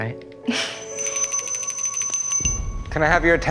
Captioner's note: bell rings